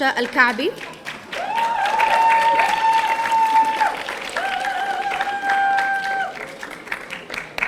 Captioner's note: audience applauding; audience cheering